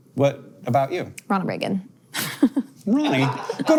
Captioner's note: chuckles